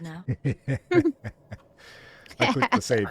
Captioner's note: laughing